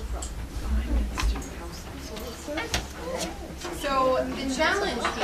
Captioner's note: people chattering